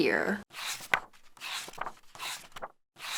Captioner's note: pages turning